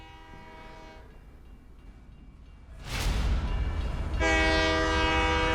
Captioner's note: horn continues outside; crossing bells ding; horn blowing